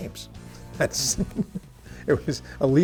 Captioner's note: chuckles